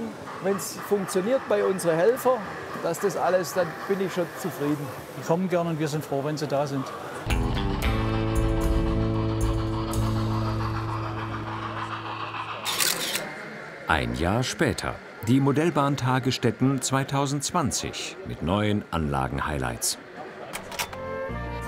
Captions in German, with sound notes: Wenn's funktioniert bei unseren Helfern, dass alles ... Dann bin ich zufrieden. Wir sind froh, wenn sie da sind. (Entspannte Musik, regelmäßiges Schnaufen) (Fotogeräusch) Ein Jahr später. Die Modellbahntage Stetten 2020 mit neuen Anlagenhighlights.